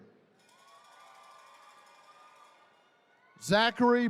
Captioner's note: attendees cheering